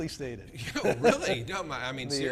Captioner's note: laughs